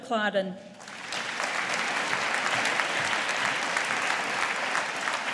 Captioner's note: audience applauding